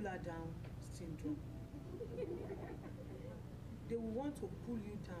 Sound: laughter

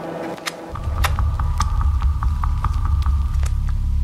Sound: mysterious music; slurping

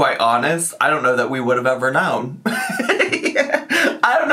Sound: laughs

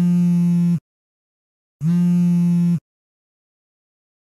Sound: phone vibrating

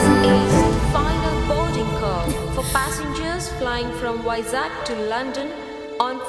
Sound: flight announcement

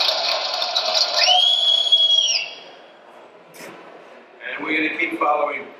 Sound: man whistling

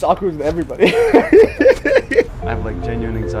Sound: laughing

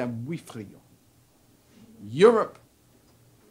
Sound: speaks Spanish

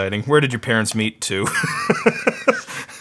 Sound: laughing

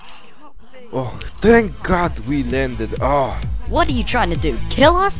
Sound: sigh

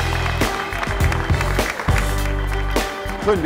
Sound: applause

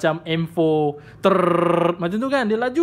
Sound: brrrrrrrrrr

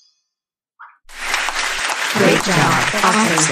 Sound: applause

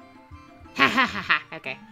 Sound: evil laughs

